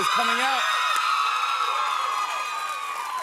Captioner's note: cheers and applause